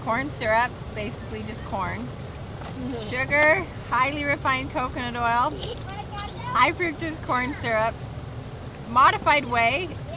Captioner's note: laughs